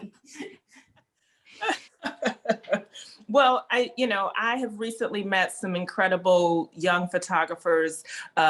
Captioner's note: laughter